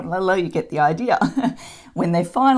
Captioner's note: chuckles